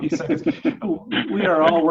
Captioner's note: laughing